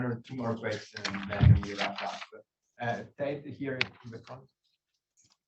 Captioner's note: faintly speaking